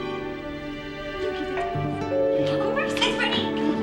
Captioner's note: doorbell ringing